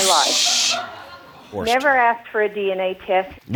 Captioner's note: audience laughing